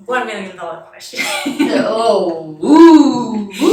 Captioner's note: chuckles